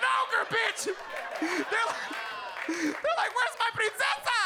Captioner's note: audience laughing